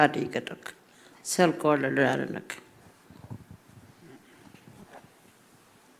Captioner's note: speaking Anmatyerr